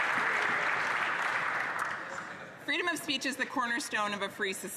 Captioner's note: some Applause